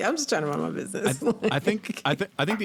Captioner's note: laughing